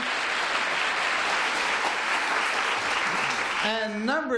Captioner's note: applause